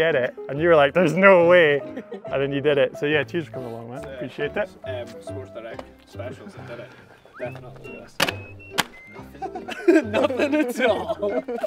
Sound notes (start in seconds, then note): 6.1 group chattering; 8.8 group laughing